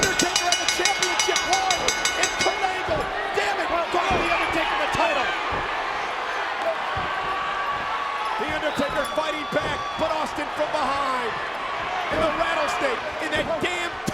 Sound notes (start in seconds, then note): 5.2 crowd cheering